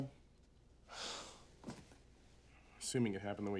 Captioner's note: sighs